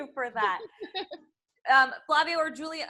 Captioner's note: laughs